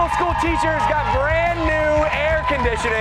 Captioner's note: cheers and applause